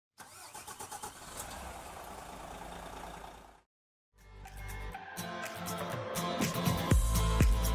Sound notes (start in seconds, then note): 0.5 motor rumbling; 4.2 upbeat country music